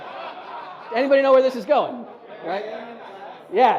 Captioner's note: audience laughs